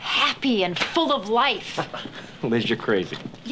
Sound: laughs

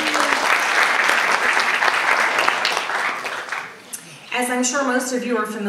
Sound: audience laughs; audience applauds

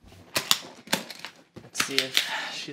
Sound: latches opening

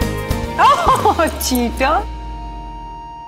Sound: Ananya laughs

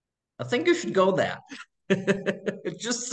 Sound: laughing

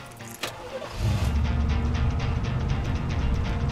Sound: engine humming; upbeat music

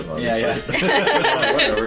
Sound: laughing

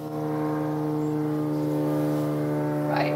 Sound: really loud plane

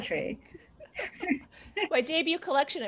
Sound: laughter

